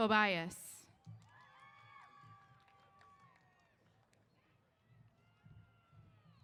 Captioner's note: applause & Cheers